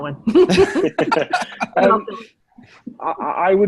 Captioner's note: all laughing